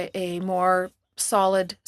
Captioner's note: speaking French